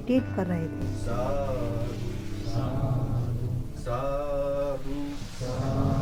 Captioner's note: chanting